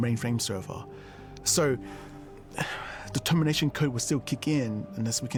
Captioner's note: sighs